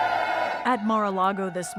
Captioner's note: cheering